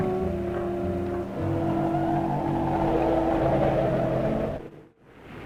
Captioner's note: eerie haunting music; wind blowing; waves crashing